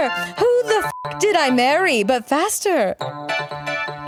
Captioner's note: beep; upbeat keyboard music